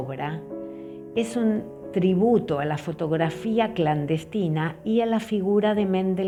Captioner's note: speaking foreign language